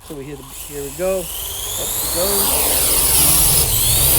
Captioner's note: drone noises